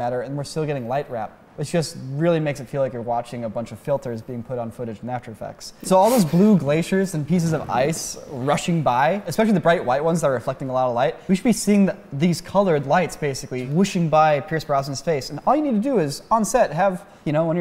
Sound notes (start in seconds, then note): none